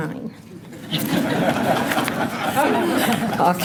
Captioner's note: laughter